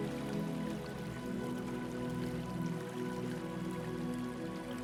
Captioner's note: water trickling